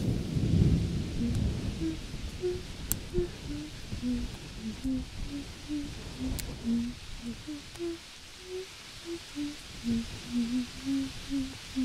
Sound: keeps humming the same tune

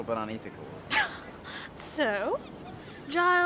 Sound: laughs

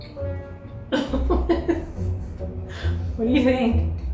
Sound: laughter

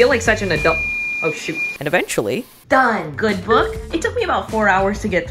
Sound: beep

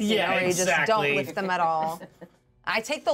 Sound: speaker laughs

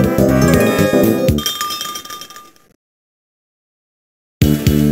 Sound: tinkle tinkle

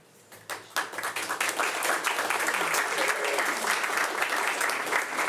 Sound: audience applauding

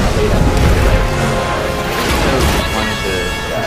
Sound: explosions

